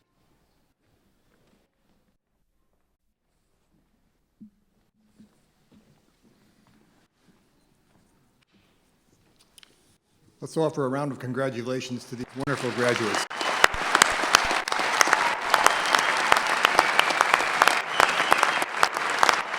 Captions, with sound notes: - Let's offer a round of congratulations to these wonderful graduates. (clapping)